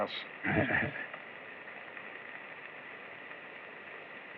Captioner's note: chuckles